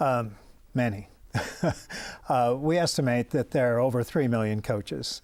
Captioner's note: laughing